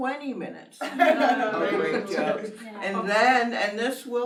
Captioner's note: laughs